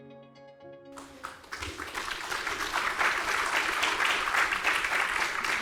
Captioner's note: audience clapping